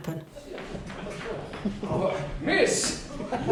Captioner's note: chuckling